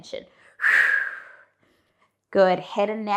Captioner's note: breathing sharply